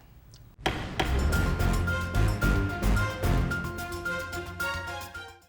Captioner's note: gavel bangs; thrilling music